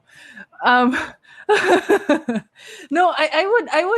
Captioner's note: laughs